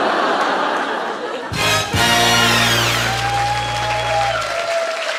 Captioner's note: laughter, applause, second minute win